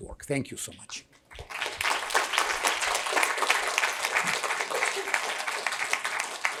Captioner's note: applause